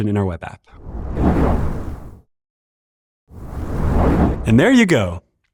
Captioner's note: whoosh